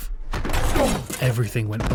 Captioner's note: SFX wood crash